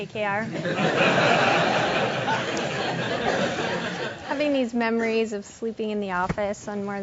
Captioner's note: laugh